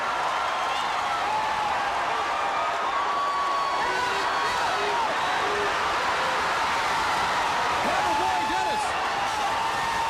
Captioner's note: crowd cheering